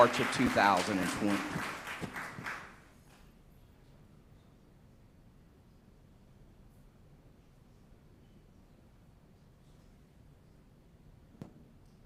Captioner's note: applause